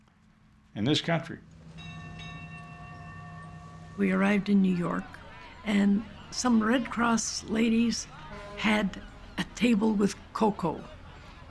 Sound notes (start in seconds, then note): 1.6 bell ringing